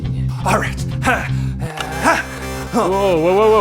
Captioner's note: button clicks